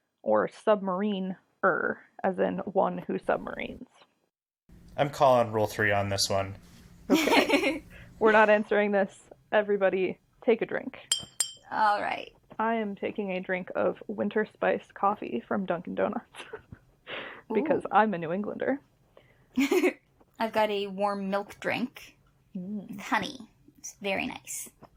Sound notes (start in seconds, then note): 7.1 laughs; 11.1 sound of utensil knocking twice on glass; 16.6 laughs